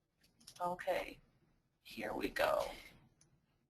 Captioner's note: voiceover